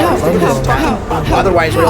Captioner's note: alien gibberish